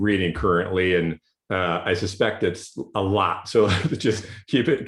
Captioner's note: laughs